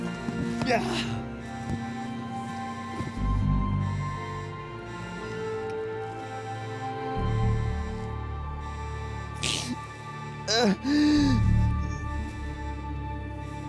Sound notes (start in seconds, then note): 10.4 moans